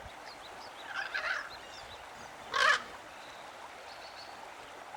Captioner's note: crow